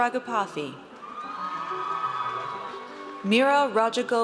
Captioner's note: audience cheers